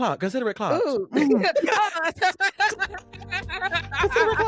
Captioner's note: laughing